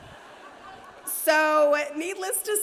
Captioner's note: audience laughs